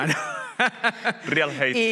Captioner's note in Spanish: Risas